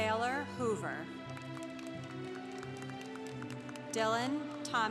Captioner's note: congregation applauding